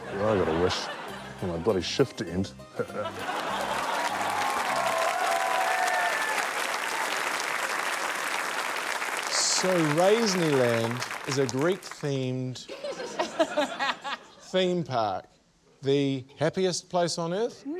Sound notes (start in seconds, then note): 3.4 applause, laughter, cheering; 6.2 cheering, applause; 12.6 laughter